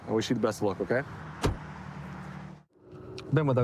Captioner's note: door bangs